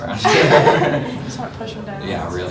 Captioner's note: both Laugh